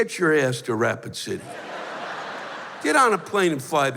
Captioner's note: laughter